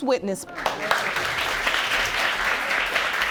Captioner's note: applause